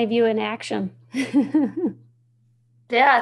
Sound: chuckling

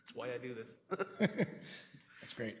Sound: chuckles

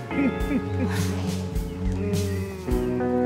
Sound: chuckles

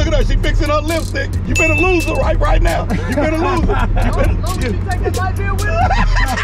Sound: laughs

